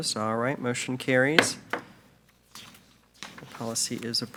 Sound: gavel bangs

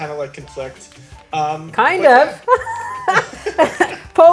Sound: laughs

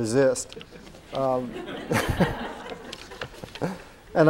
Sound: laughter

